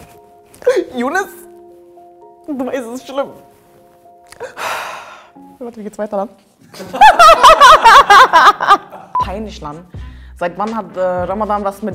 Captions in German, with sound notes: Younes, es ist schlimm. (Sie atmet tief aus.) Warte, wie geht's weiter? (Sie lacht laut.) Peinlich, Lan.